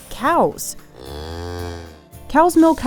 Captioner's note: cow mooing